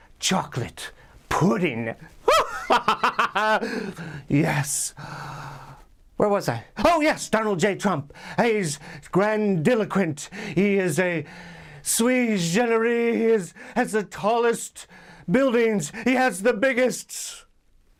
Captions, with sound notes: chocolate pudding. (laughs) Yes. Where was I? Oh, yes. Donald J Trump. He's grandiloquent. He is a sui generis, His has the tallest buildings. He has the biggest...